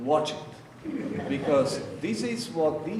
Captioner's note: audience laughing